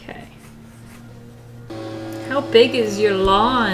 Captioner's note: mowing starts